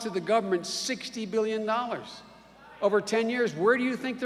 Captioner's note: none